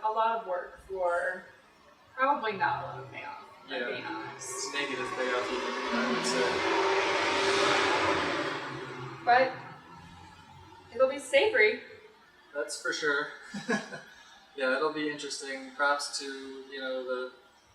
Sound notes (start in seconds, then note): 8.4 truck noise; 13.4 laughter